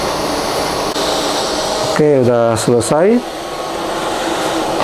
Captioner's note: printer machine sound; inhale